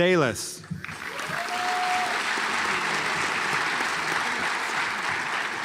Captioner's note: audience applauds